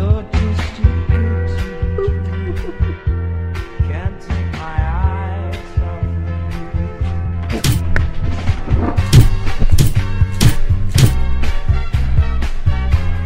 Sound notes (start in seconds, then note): 1.7 laughs